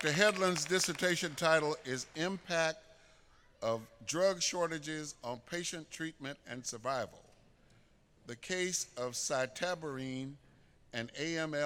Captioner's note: applause